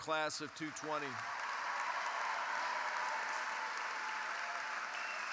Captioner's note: crowd apllauding